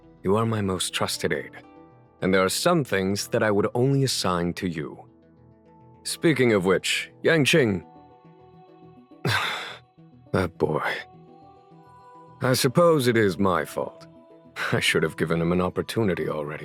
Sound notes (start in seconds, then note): 9.2 sigh